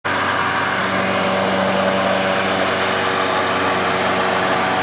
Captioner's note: engine